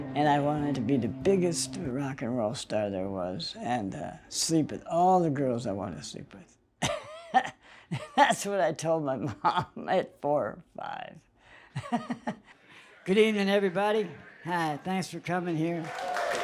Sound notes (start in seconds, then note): 6.8 laughs